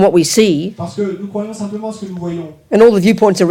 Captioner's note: speaking in French